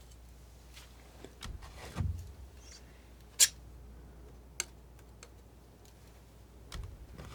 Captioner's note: scratching